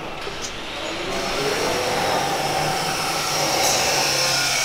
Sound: grinder whirring

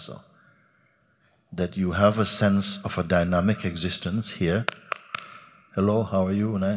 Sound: clapping

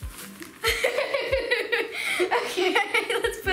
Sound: laughing

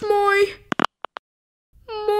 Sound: click!

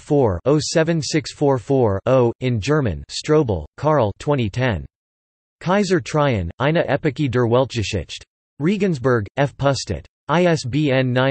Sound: in German

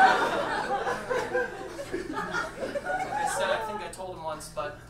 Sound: audience laughs

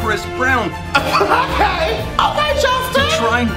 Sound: laughing

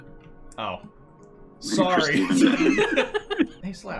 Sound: laughter

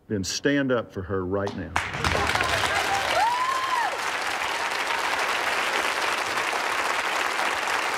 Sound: cheering and applause

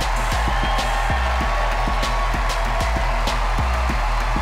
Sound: cheering and applause

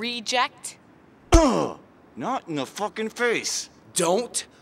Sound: slam

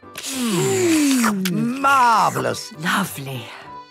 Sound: slurping

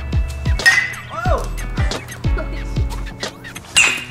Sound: bat clangs; yelps in surprise; bat clangs

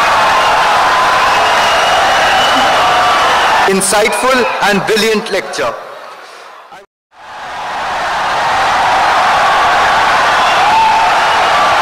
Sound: wild applause and cheering for 17 seconds

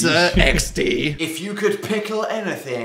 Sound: laughs

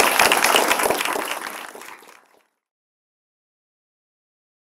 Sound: applause

